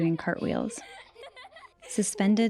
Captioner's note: kids laughing